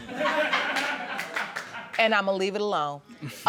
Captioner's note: audience laughing